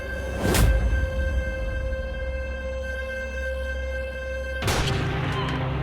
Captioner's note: sinister music; dramatic noise